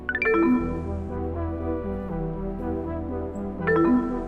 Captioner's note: gentle music; electronics beep; gentle music; electronics beep